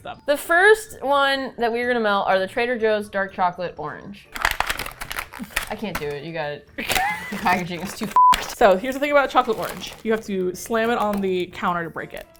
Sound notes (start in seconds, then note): 6.8 laughs